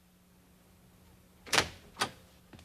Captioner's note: door opening